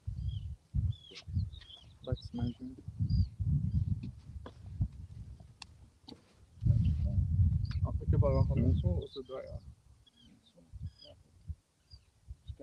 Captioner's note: indistinct chatter